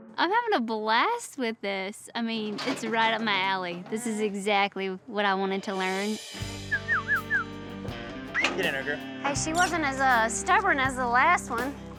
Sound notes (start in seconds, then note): 6.6 whistling